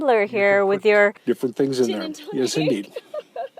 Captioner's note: laughs